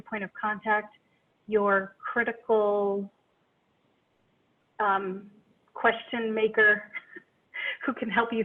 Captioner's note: chuckles